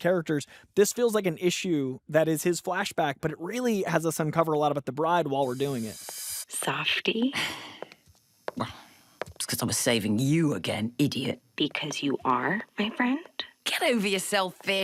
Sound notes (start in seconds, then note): 7.3 sighs, then grumbles